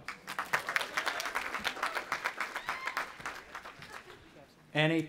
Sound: audience applauding and cheering

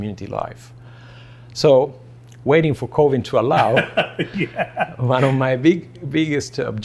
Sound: laughs

